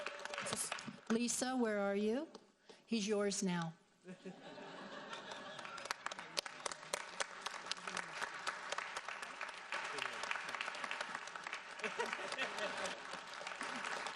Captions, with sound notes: Lisa, where are you? He's yours now. (audience laughs) (audience applauds)